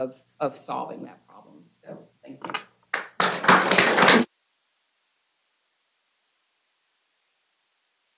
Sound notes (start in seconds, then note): 2.9 applause